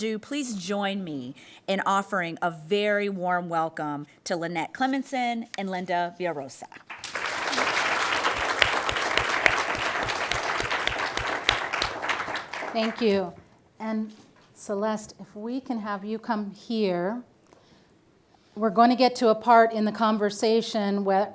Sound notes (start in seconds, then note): 6.9 audience applauding